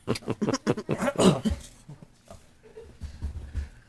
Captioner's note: laughing